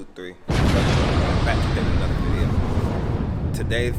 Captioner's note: explosion